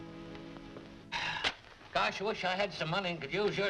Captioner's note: sighing